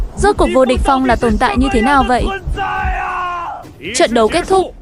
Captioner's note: shouting